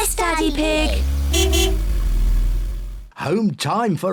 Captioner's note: honks horn